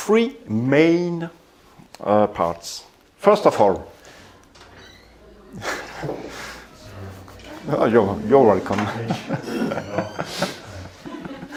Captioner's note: sounds - door